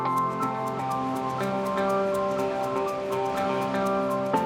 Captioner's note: water rushing